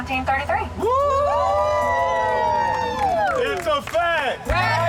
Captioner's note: advocates cheer